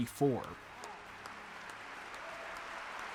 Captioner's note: audience clapping